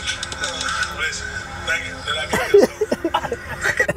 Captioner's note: laughs